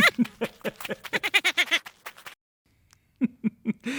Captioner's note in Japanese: トロルは笑います。